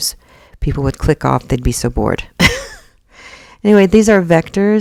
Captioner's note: chuckles